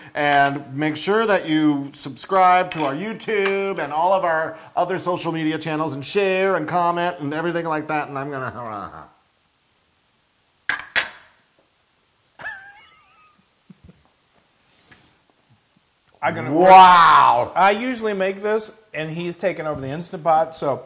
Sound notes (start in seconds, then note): 12.4 laugh